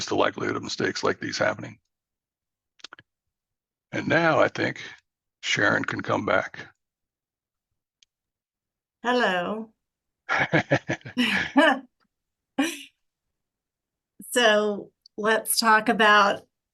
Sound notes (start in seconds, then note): 10.3 laughs